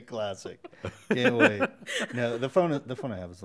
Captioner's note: chuckles